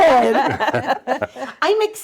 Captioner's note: laughing